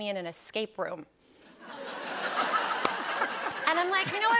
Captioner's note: laughter